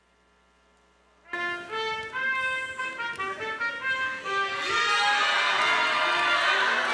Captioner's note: triumphant music; crowd cheering